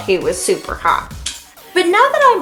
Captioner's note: clicks tongue